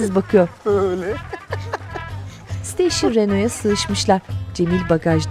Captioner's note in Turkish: Müzik - Hareketli; Müzik - Neşeli; Gülme sesi